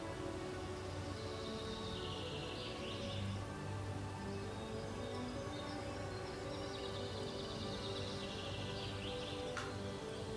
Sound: birds chirping

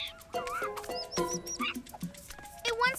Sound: squeaky chittering

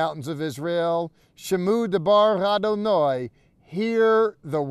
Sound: speaking in Hebrew

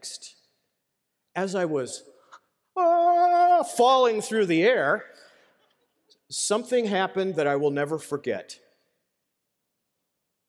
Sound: ahhhhhhh

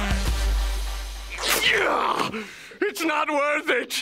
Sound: groaning

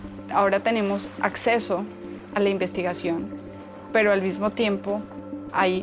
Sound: speaking in foreign language

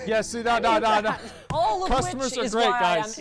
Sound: laughter

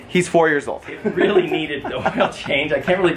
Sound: laughs

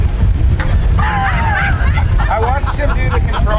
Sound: all laughing

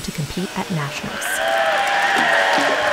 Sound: crowd cheering

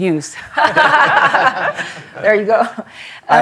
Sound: laughter

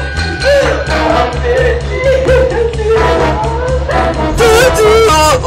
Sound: crying

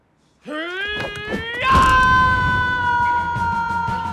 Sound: grunts

